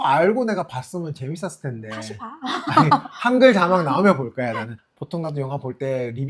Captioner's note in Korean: 웃음